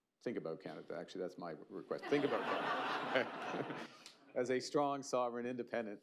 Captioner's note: laughter